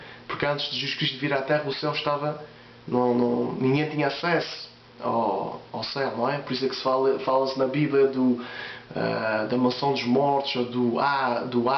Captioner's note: hebrew